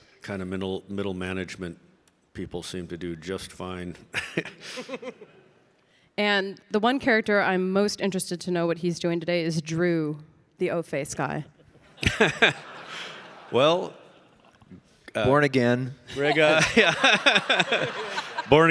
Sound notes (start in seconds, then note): 4.1 Mike chuckles; 16.1 laughs